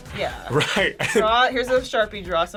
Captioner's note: laughs